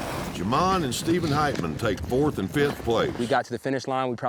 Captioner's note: none